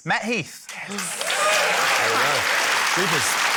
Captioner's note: cheering, applause